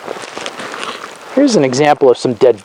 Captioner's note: leaves crunch